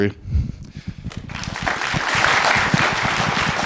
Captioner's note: applause